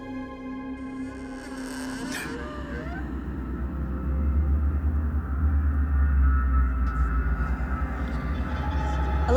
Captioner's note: door creaking open